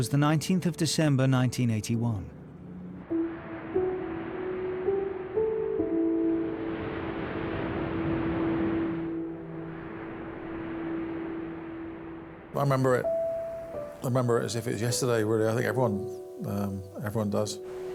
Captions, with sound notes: It was the 19th of December, 1981. (gentle music) (water sloshes) - I remember it as if it was yesterday. Really, I think everyone does.